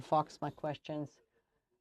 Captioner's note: speaking French